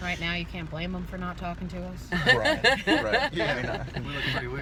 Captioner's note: laughter